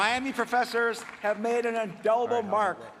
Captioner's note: applause